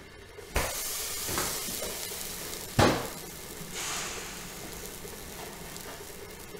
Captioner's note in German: zischendes Geräusch und Klappern im Hintergrund